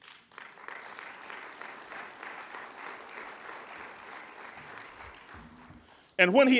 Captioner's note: applauding